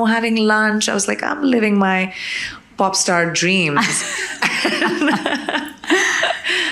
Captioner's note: chuckles